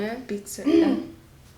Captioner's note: clears throat